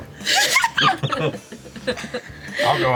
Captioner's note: laughter